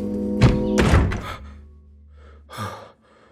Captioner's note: loud door slamming; panicked breathing